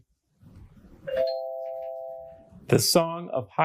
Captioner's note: bell dings